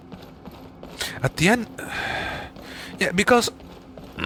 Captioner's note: sigh